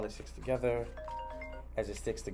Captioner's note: phone rings